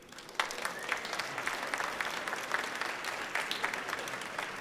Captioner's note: audience clapping